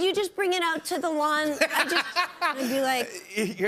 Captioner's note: laughter